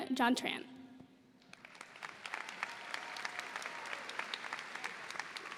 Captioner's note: audience applauds